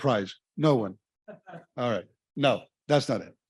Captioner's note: audience chuckling